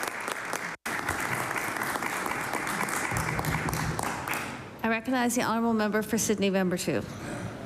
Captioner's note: applause